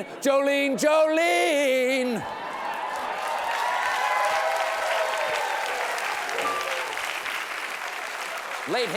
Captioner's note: cheers and applause